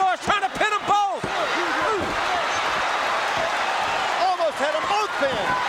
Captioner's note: audience cheering